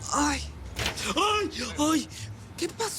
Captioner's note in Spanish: Quejidos